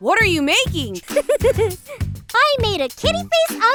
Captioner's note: chuckles